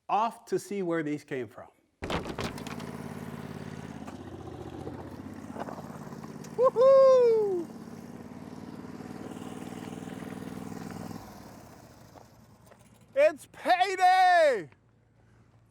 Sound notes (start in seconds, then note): 2.6 bandmill humming; 8.1 bandmill humming